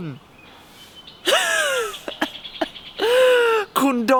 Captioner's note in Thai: หัวเราะเหมือนได้ถ้วยรางวัล 555